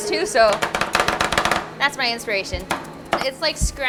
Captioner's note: tapping